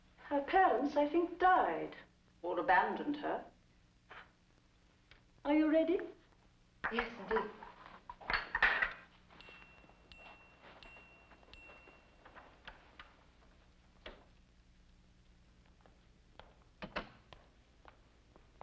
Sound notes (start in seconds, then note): 8.2 teacup clatters down; 9.3 bell dings; 12.3 door opens; 16.8 door closes